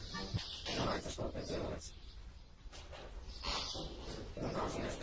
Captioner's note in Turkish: Rusça fısıldıyor